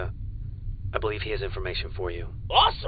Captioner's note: calm voice